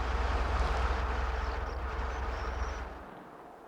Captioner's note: none